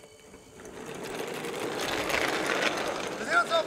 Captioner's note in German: Skateboard-Fahrgeräusch